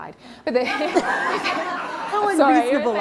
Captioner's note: laughter